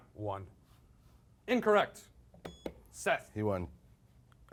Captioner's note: beep